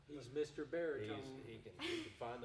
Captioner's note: chuckling